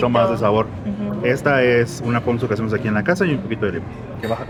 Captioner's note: speak in Spanish